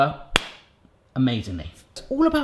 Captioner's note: hand hitting